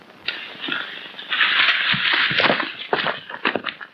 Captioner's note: rustling